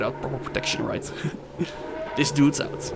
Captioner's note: chuckle